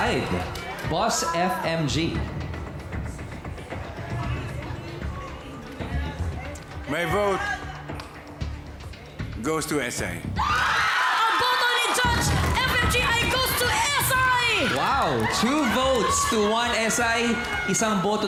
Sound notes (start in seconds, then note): 8.5 stirring music continues; 10.9 cheering